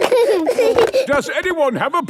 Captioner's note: giggling